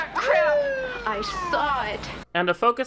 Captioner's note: police siren